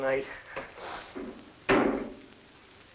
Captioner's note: knock; animal noises